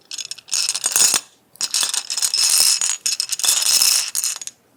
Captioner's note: clatter